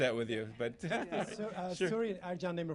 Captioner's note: laughter